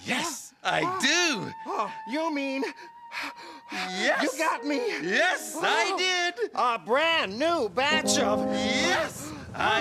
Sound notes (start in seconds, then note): 3.1 breathing heavily